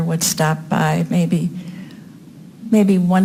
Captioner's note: none